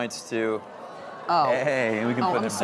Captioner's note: audience gasping